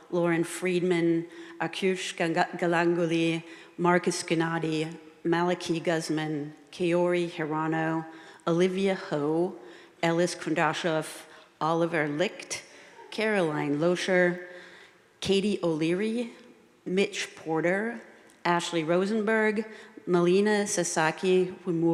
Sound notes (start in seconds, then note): none